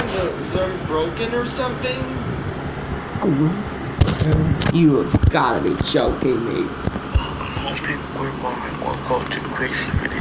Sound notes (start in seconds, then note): 4.9 gulps